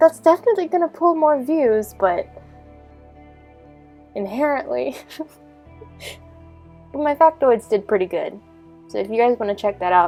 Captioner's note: giggling